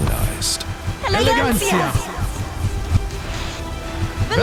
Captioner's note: in Spanish